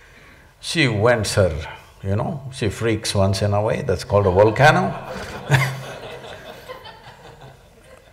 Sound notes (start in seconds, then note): 5.0 laughter